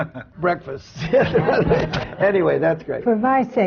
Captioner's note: laughter